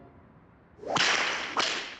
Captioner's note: snap, snap